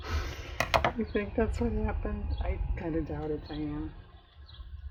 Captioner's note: laughs